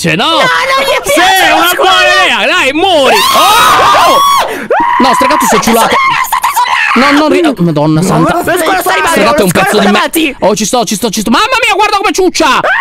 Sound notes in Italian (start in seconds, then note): 2.9 tutti urlano